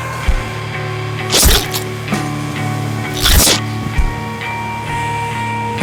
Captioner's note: flesh squelches; vocalist ominously whispering